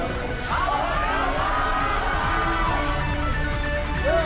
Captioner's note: crowd cheers; intense music